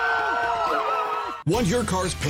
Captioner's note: crowd cheers